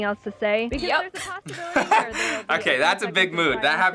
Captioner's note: laughs